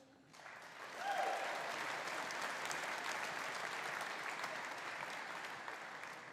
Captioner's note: audience applauding; audience cheering